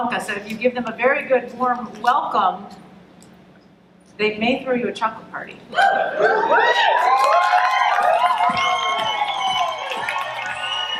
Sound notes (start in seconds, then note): 5.8 audience cheering and clapping